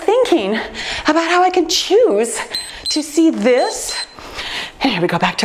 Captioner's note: timer beeps